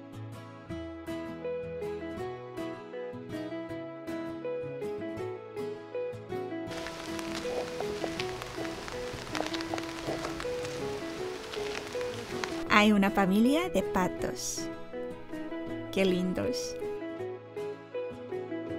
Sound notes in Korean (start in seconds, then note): 6.7 빗소리 asmr